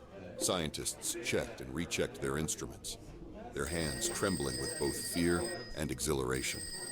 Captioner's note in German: das Telefon klingelt